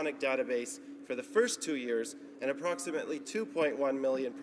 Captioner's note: none